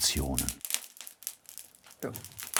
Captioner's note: crackling fire